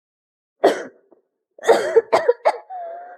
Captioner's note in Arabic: سعال، سعال، سعال